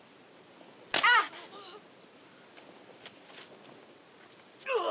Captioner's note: shouting